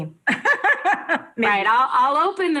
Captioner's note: laughs